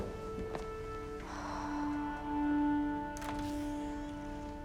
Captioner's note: light music; Cassie sighs; door squeaking